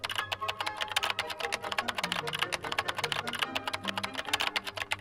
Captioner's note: keyboard clacking